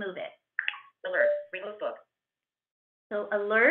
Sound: VoiceOver voice

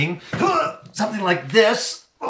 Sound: speaker grunting

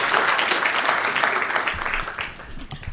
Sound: applause

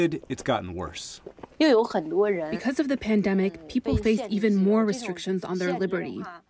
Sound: through translator

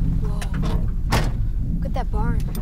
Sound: car door closing

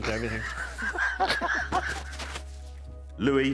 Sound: laughing

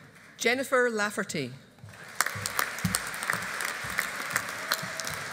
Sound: audience applauding

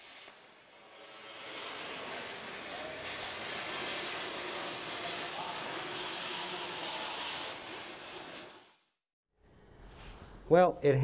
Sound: machinery noises

